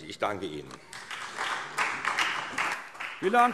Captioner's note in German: Beifall SPD